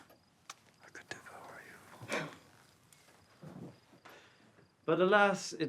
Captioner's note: Emma gasps